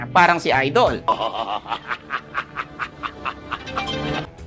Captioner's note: man laughing maniacally